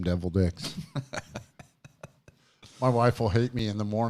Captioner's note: laughing